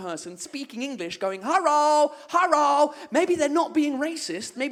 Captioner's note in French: accent chinois